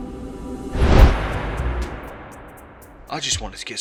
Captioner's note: wind whooshing